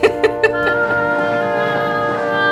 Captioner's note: laughs